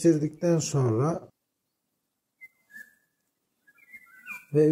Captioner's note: bird sounds